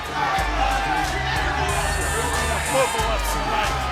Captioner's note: crowd shouting